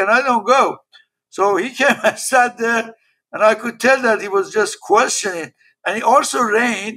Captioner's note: laugh